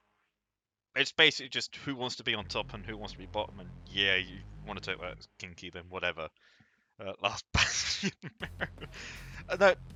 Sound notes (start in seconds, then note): 7.5 chuckles